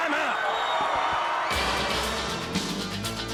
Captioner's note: crowd cheering